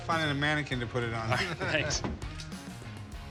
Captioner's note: laughs